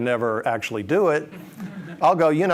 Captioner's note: audience laughs